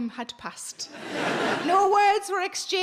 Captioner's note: audience laughing